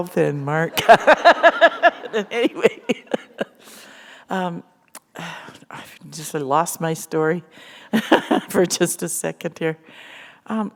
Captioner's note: laughter; chuckle